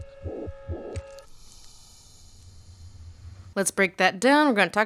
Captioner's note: hiss of air escaping